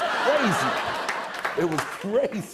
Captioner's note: chuckling